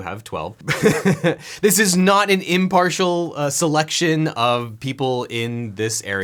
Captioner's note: laughs